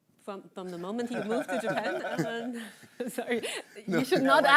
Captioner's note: all chuckling